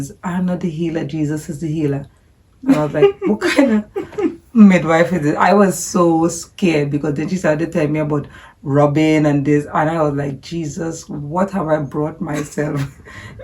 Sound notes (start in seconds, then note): 2.6 giggling